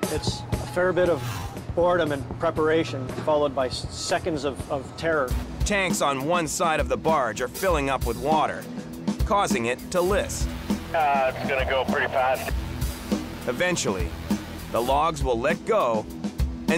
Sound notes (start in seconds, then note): 10.3 man Over Radio